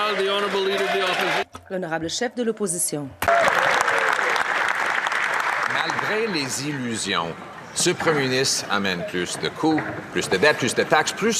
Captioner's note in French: applaudissements